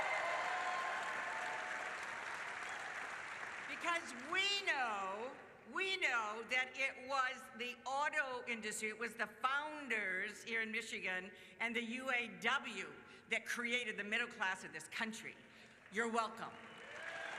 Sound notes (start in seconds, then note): 3.5 cheers